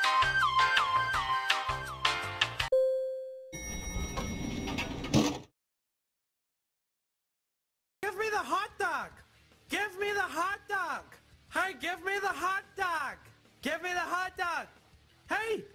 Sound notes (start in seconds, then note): 2.7 ding; 3.6 elevator door opens